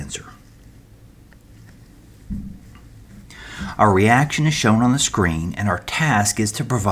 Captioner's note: turn page